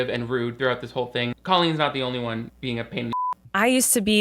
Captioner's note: beep